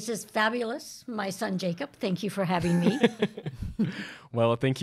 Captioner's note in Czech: Chichotá se